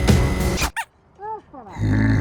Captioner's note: squeaky hot hand noise